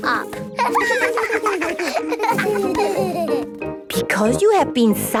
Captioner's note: laughter